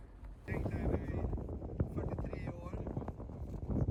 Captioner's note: wind rustling